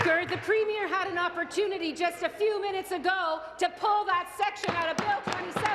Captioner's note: applause